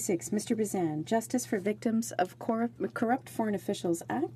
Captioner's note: speaking in french